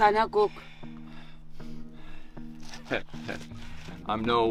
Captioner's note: hunter speaking native language